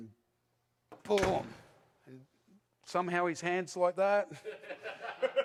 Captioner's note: audience: laughs